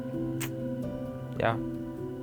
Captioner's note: tongue clicks